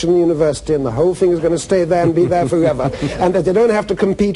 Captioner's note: laughter